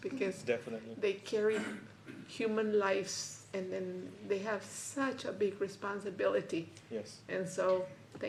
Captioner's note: clears throat